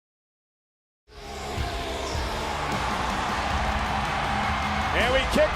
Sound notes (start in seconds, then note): 1.5 Braun roaring